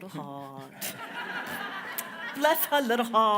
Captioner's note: everyone laughs